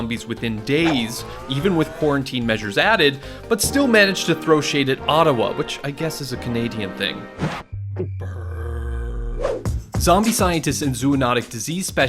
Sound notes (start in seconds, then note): 7.3 gulps